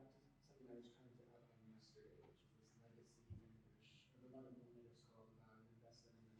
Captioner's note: faintly speaking